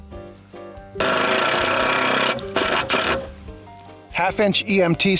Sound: drilling

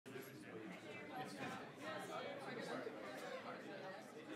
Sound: group chattering

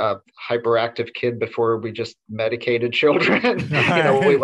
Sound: laughs

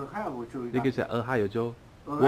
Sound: mandarin

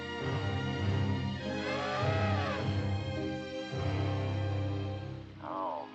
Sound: elephant trumpets

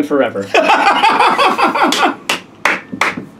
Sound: laughs

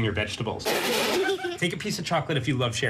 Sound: laugh

